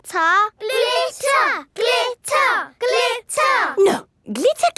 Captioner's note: chanting